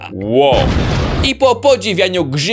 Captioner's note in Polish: boom!